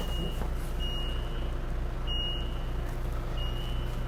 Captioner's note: electronic beeping